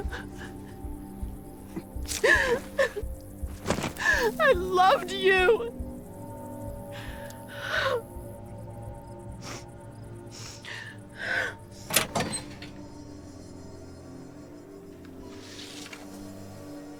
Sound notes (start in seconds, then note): 5.8 crying; 12.7 dramatic music